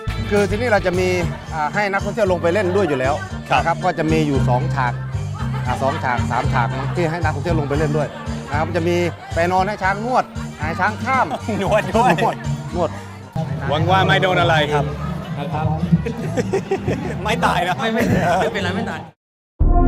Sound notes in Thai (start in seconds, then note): 15.9 เสียงหัวเราะ